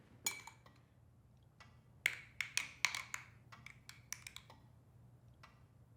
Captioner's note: dishes clinking